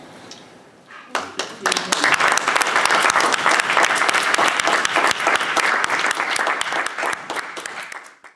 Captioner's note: applause